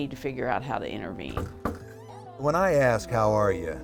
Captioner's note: knocking